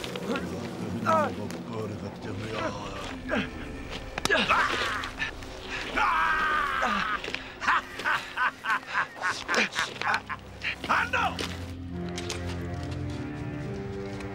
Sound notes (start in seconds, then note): 7.9 laughing